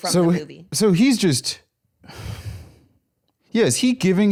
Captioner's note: sighs